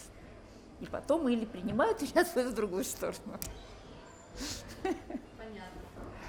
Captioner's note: laughs